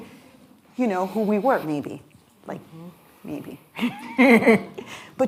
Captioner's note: laughs